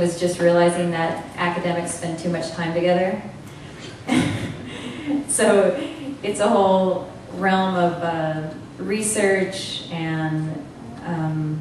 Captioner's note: laughter